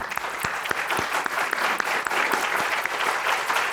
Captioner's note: applause